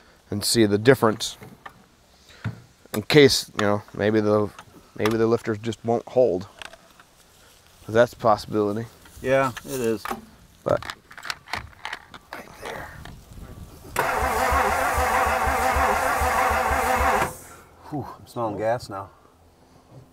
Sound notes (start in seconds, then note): 13.9 vehicle engine humming